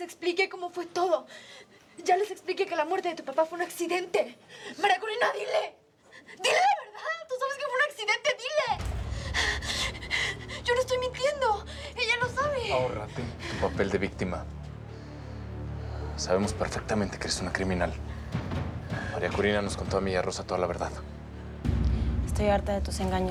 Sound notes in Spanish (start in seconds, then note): 10.0 Sollozos